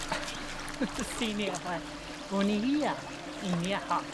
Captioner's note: speaking Algonquian